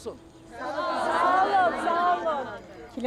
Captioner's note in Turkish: Hep bir ağızdan